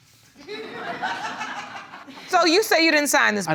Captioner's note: audience laughing